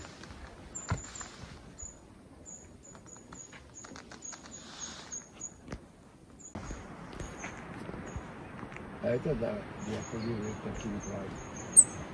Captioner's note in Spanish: Sonido de colibrí cantando